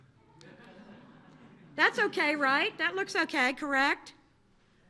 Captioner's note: laughter